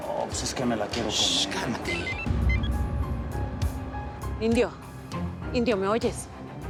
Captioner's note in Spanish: suena un celular; celular sonando